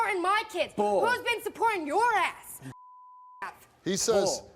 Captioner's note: beep